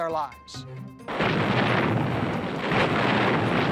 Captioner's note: gunfire